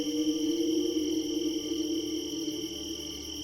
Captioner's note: strange Wailing